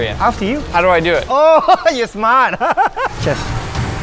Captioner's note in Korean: 웃음